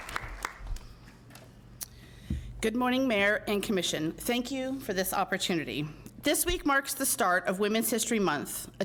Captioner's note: applause